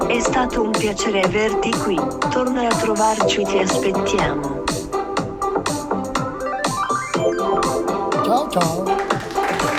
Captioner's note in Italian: Applauso